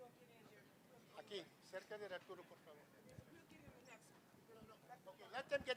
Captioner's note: non-english speech